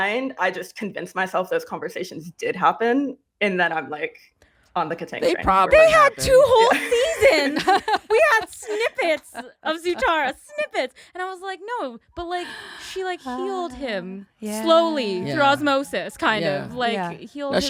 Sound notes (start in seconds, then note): 7.6 laughs